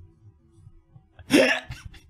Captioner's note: inhale